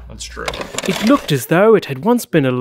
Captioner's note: voiceover